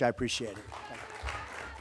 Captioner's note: applause